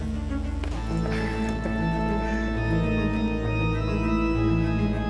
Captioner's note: Michael chuckling